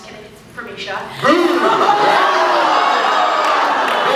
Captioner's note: laughs